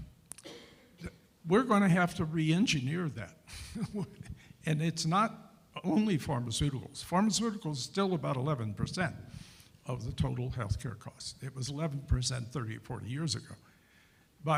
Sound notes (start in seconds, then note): 3.5 chuckles